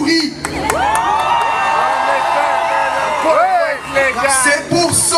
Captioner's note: applause